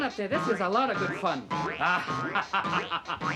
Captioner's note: laughing